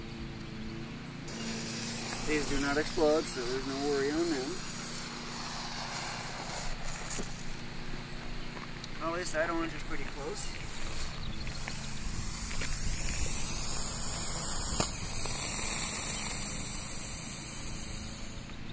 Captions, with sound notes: (hissing) These do not explode so there's no worry on them. How is that orange, it's pretty close? (hissing)